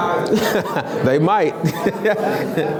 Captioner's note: laughs